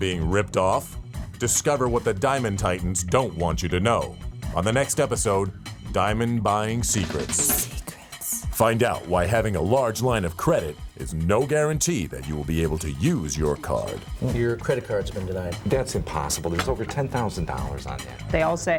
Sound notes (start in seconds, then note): 10.4 lady whispering "secrets"